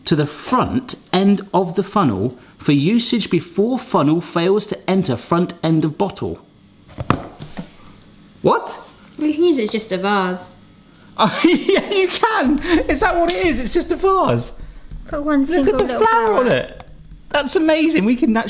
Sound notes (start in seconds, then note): 11.2 laughs